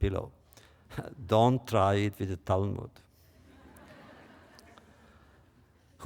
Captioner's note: laughter